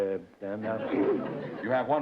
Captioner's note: laughter